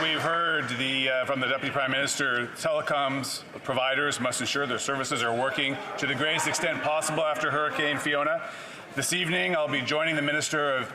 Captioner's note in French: voix de l'interprète